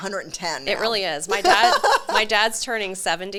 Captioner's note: laughs